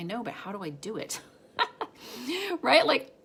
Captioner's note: laughs